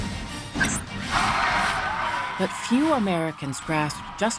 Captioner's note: audience applauding